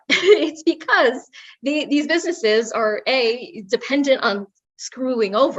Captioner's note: laugh